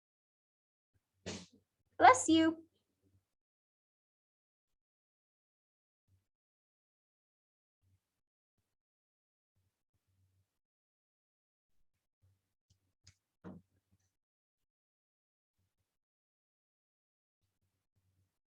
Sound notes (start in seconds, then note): 1.3 sneeze